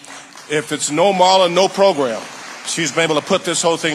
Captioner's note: audience applauding